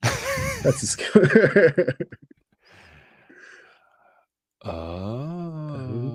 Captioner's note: laughs